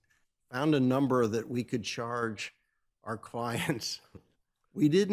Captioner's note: chuckles